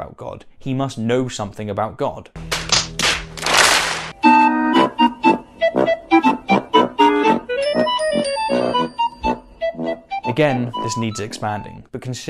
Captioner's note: clapping